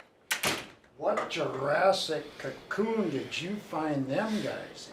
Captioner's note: door slamming